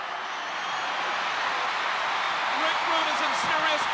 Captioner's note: audience cheering